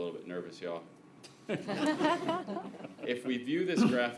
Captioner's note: laughter